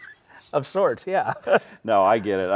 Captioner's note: laughing